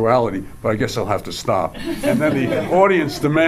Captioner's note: audience laughs